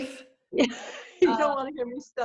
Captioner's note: laughs